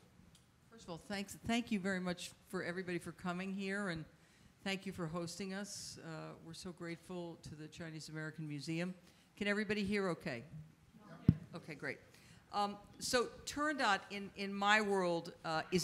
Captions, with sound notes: Well, first of all, thank you very much, everybody, for coming here, and thank you for hosting us. We're so grateful to the Chinese American Museum. Can everybody hear okay? - Yep. - (thuds) Okay, great. So, "Turandot," in my world,